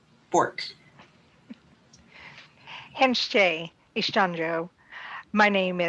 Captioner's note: speaking in Native Language